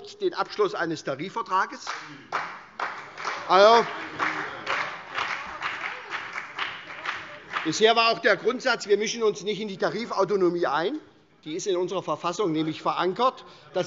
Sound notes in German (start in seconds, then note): 1.8 Beifall CDU und BÜNDNIS 90/DIE GRÜNEN